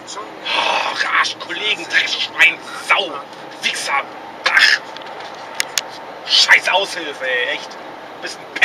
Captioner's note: swearing and cursing